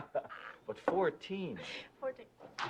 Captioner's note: laughing